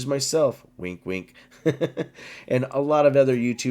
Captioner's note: laughs